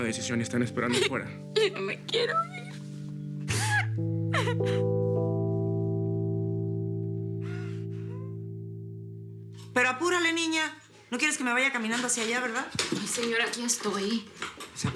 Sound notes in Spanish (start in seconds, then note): 3.4 Sollozos